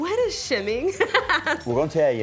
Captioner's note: laughter